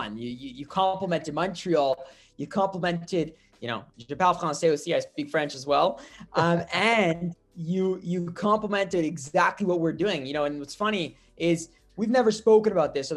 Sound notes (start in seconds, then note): 4.6 French